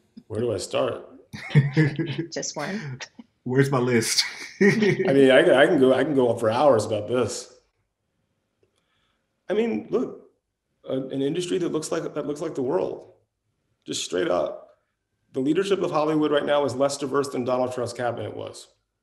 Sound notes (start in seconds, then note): 1.3 laughs